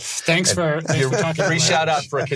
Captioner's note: laughs